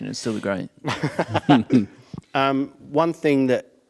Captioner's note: laughing